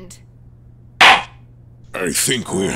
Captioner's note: gavel slams!